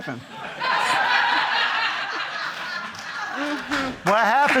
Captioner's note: audience laughing